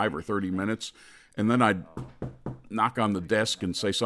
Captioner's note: knocks on desk